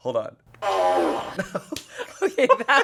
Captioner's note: fart machine farts